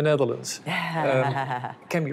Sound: laughs

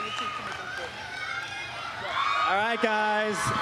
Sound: applause

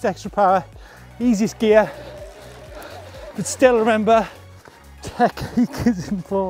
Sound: laughs

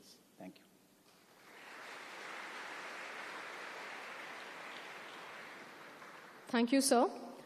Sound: applause

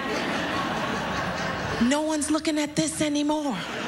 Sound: laughter

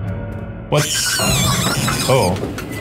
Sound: Murder Monkey screeching

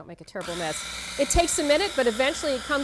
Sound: processor runs

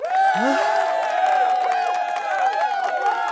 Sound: crowd cheers

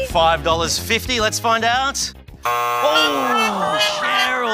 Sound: buzz!

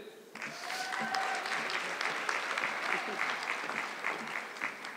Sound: audience clapping

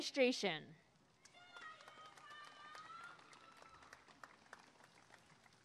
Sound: applause and cheering

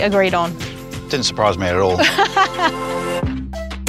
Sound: laughs

